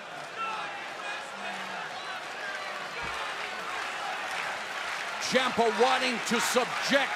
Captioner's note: fans chanting